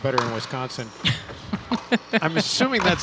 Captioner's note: chuckling